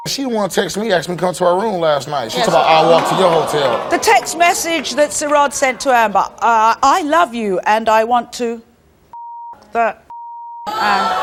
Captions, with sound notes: She the one text me ask me to come to her room last night, she's about I'll walk to your hotel. - The text message that Sirod sent to Amber, I love you and I want to (beeps) and (beeps) lay you down.